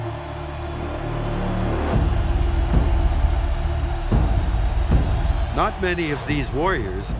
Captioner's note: shouts from the crowd